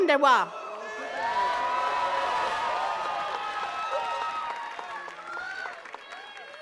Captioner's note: attendees cheering and clapping